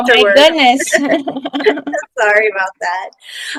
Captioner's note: laughing